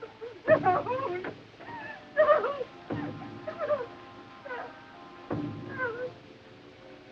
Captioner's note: Klili whimpering